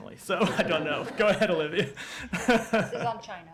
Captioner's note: laughter